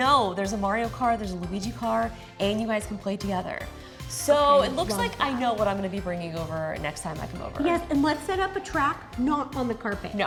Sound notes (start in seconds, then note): none